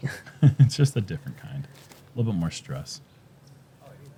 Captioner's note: chuckles